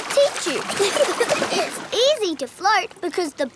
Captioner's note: giggling